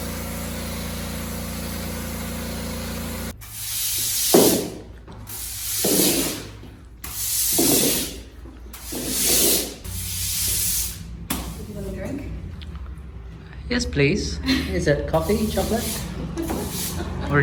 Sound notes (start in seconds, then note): 3.2 sound of heavy broom and water swishing